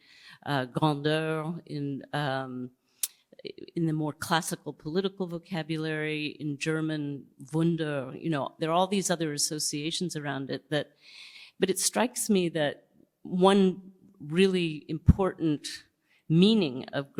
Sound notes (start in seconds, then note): 0.0 non-english speech; 6.8 non-english speech